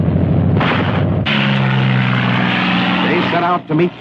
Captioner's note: gun fires